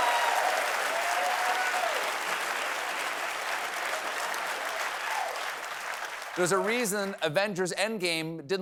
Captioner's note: applause